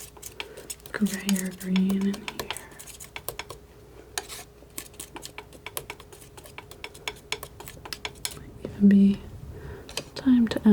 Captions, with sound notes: grayer green in here. [tapping] It might even be time to